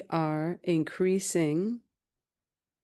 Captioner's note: speaking in French